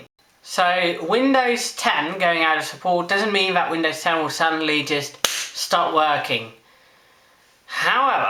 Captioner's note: clap